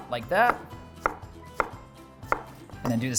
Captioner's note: chopping loudly